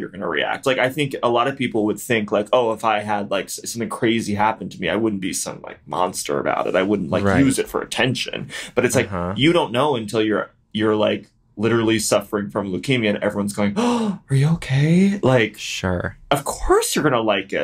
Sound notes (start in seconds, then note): 13.8 gasps